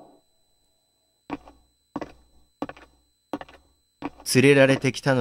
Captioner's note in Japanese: 足音：コツコツコツコツ